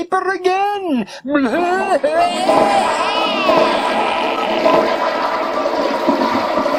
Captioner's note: toilets flushing